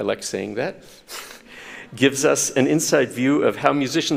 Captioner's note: chuckles